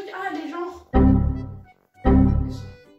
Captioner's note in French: Bruit de bug Windows; Bruit de bug Windows x2